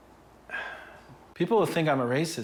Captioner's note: sighs